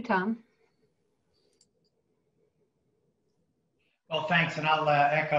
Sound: mouse clicks

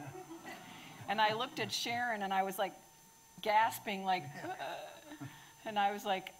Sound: gasps

